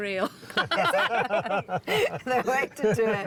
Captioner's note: laughter